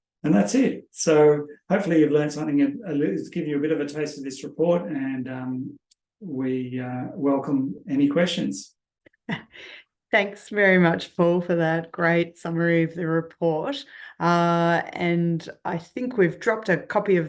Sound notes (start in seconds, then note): 9.3 laughs